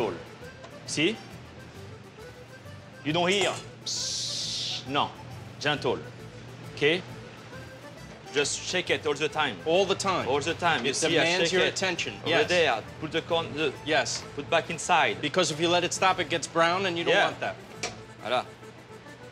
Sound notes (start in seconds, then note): 3.2 imitates sizzle